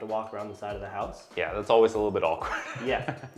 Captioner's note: laughs